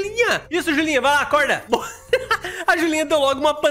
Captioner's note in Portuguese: risos